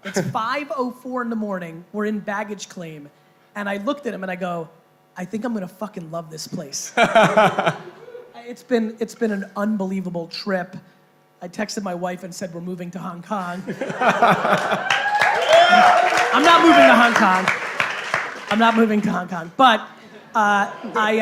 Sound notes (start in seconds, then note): 7.0 laughing; 13.6 laughing; 14.0 cheering and applause